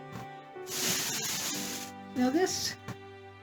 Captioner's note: more plastic bag rustling